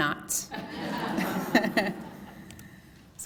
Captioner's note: laughter